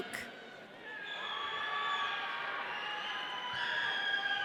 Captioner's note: audience cheering